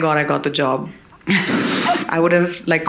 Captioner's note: audience laughing